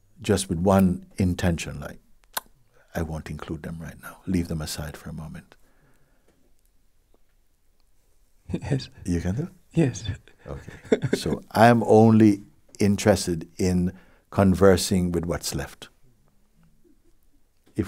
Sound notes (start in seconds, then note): 10.1 laughs